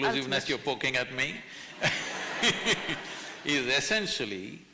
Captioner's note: laughter